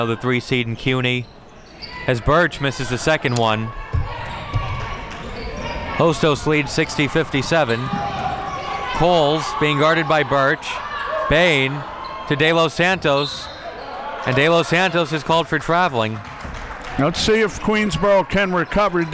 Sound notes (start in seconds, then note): 13.2 whistle blows; 15.9 audience clapping